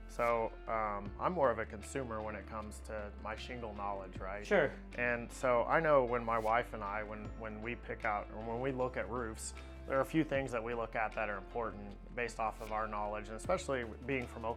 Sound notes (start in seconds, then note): none